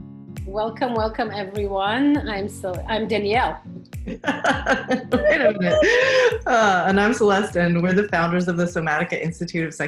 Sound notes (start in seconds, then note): 4.1 laughs